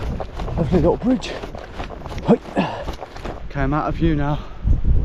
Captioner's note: groans